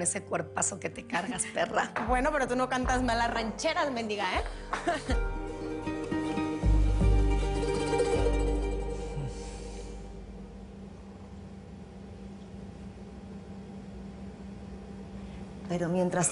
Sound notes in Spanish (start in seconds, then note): 4.8 Risas